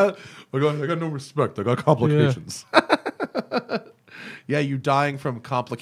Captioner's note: laughter